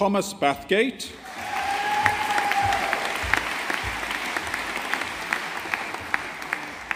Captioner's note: audience applauding